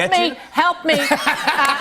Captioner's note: laughter